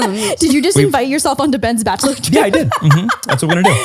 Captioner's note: laughs